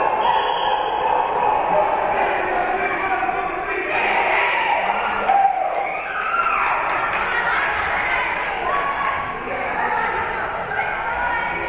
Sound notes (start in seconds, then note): 0.0 Bronx performing team chant; 0.1 whistle being blown; 4.0 team cheering